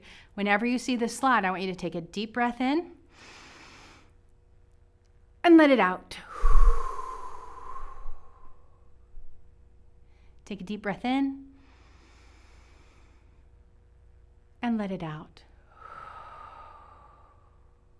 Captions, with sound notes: Whenever you see this slide, I want you to take a deep breath in [inhales] and let it out [exhales]. Take a deep breath in [inhales], and let it out [exhales].